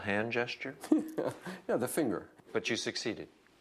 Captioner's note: laughs